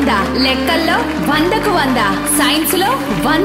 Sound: applause

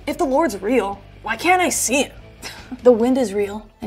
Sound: laughs

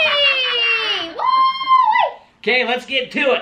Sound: evil laughing; cheering

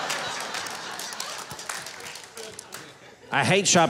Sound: audience laughing

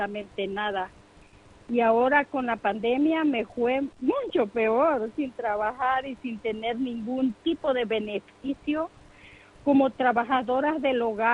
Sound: speaking in foreign language

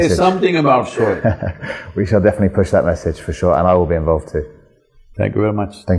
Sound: laughs

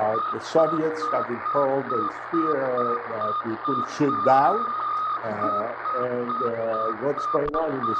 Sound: audio interference

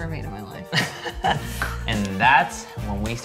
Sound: laughs

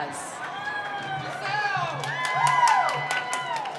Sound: cheering

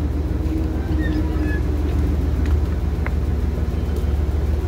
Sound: doors creak open

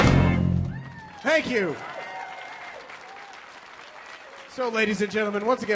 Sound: audience cheers

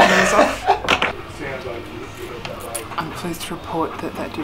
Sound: everyone laughs

